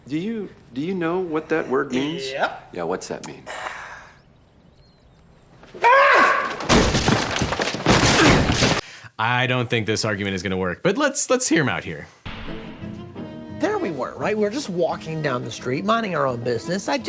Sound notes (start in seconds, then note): 5.9 Charlie yells; 6.6 door crashes; 12.3 upbeat music